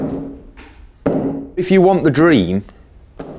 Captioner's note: hammer thumping